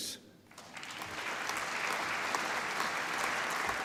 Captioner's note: applause